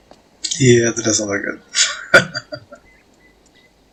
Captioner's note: laughing